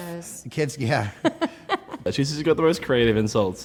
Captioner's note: laughing